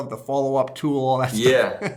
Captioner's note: laughter